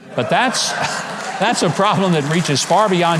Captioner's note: audience applauds